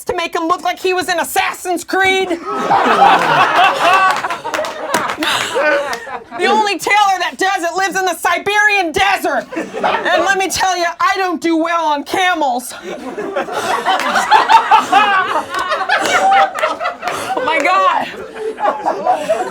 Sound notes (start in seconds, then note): 2.3 laughing; 12.7 laughing; 15.0 panting